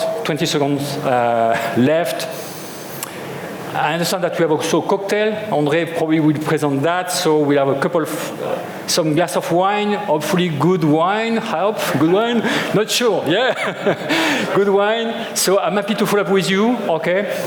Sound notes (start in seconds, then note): 13.3 chuckles